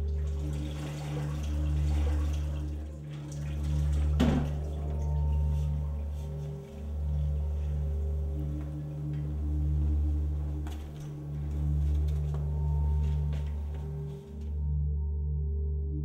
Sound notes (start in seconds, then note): 0.3 water sloshing; 4.4 bucket clanking